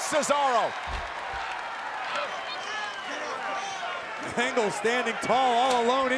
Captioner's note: applause